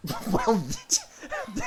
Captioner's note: laughing